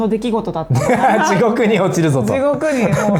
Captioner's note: laughs